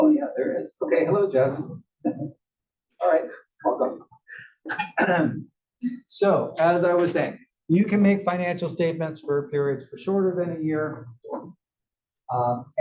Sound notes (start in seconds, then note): 4.6 cough